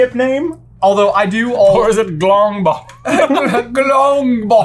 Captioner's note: breaks off laughing